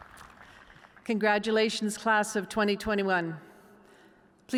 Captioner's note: cheers and applause